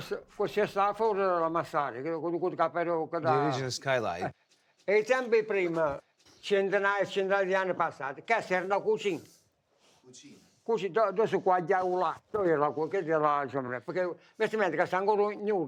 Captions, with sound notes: (speaking foreign language) The original skylight. (speaking foreign language) (speaking foreign language)